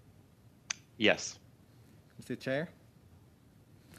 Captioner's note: speaking French